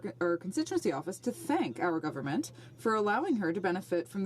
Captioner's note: speaking French